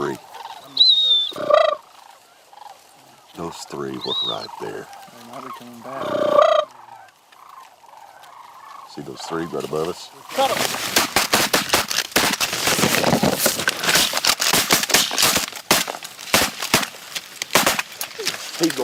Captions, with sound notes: oh those three those three was right there now theyre coming back [crane calls] those three right above us cut'em [gun shots]